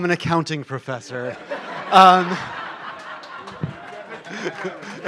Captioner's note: laughter; applause